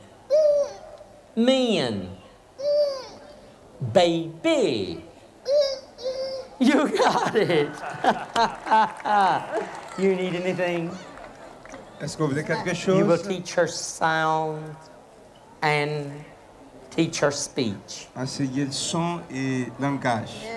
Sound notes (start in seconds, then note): 6.6 boisterous laughter; 7.7 applause; 7.7 clapping; 13.2 speaking in local tongue